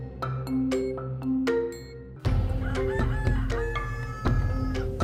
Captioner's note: rooster crows